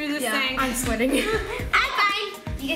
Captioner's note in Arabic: يضحك